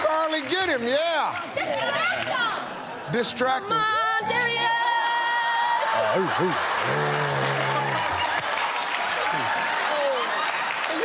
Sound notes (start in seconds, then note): 6.8 growls